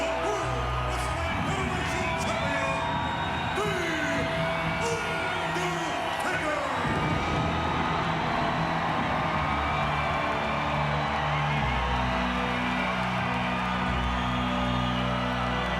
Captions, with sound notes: the World Wrestling Federation Champion, The Undertaker! (sinister music continues) (crowd cheering continues)